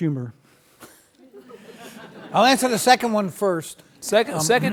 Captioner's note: several laugh